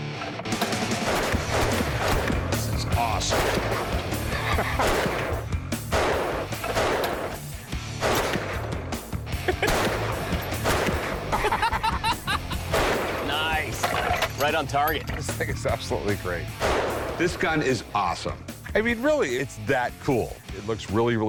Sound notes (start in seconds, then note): 3.2 laughs; 11.3 laughter